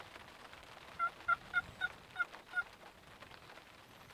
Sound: turkey calls

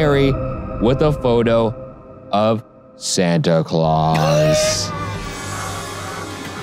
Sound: laughs

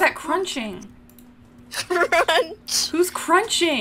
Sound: laughign

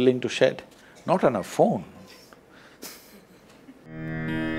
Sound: laughs

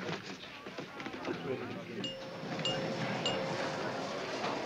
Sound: elevator dings

